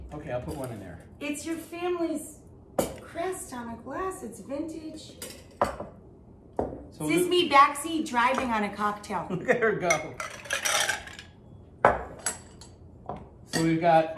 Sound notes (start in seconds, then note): 9.3 chuckling; 10.2 ice cubes rattling